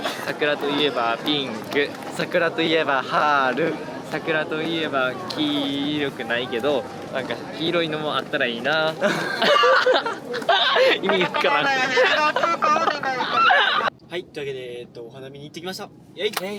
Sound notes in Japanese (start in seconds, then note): 9.0 笑笑笑笑笑笑笑